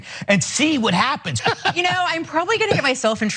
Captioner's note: laugh